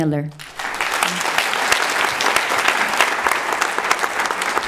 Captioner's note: audience applauding